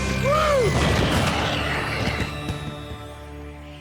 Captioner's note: fireworks popping